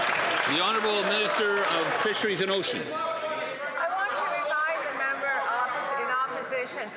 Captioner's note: some Applause